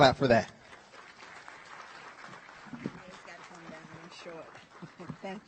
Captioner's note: audience applause